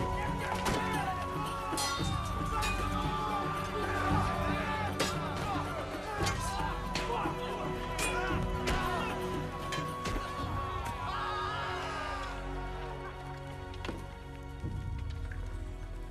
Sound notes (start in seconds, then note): 5.4 dramatic music; 5.4 shrieking